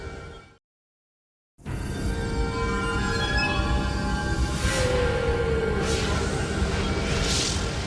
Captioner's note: graphics whooshing; mysterious music